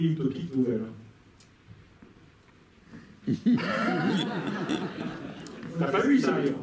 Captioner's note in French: rires